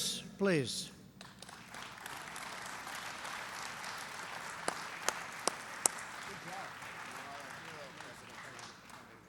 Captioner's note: applause